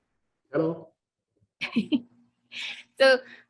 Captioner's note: laughing